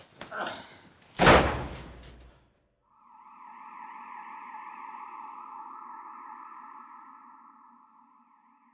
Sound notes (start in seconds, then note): 1.1 door slams; 2.9 sirens